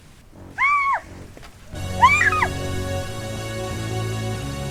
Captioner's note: Katie screaming; suspenseful music